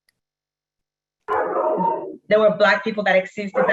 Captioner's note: dog barks